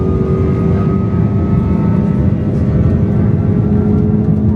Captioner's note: engine humming continues